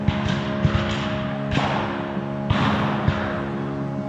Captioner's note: guns fire